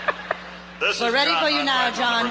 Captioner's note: voiceover